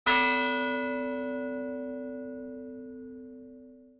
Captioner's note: bell ringing